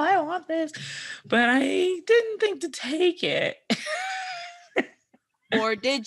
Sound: laughs

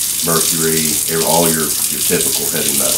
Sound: none

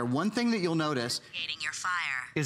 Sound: electronic voice

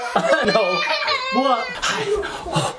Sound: crying

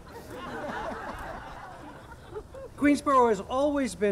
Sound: audience laughing

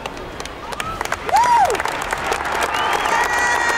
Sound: applause

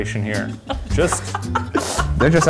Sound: laughing

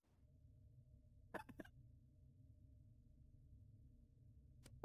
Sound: laughing

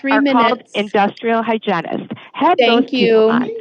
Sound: chatter continues

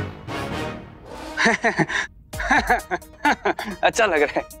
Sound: laughing

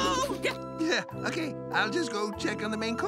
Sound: chuckles

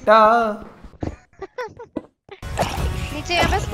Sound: laughs

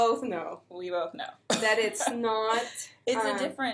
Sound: chuckles

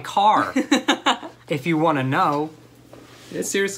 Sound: laughter

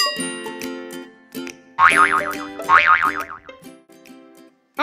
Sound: bong boing

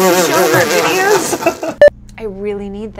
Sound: spit-take laugh; laughter

